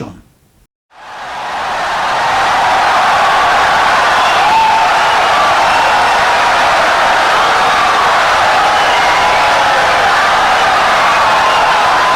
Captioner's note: wild applause and cheering for 17 seconds